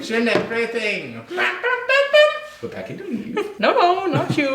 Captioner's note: imitates trumpet